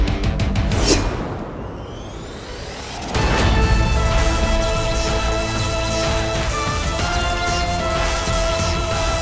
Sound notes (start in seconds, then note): 0.6 sword whooshing; 3.0 grand music